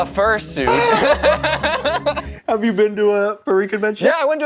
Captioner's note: laughter